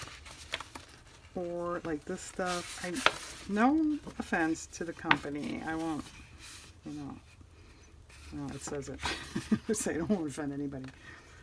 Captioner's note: laughs